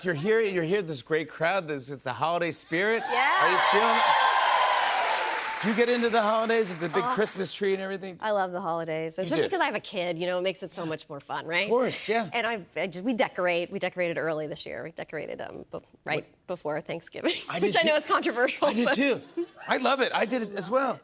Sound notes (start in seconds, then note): 2.8 cheers and applause